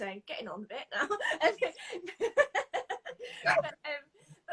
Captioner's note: both laughing